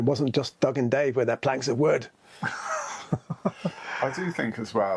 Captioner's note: laughs